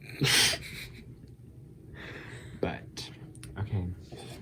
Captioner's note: laughing